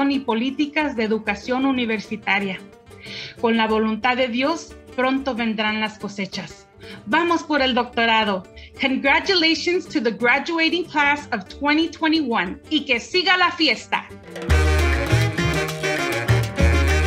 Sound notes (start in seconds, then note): 12.7 speaks in foreign language; 14.4 upbeat music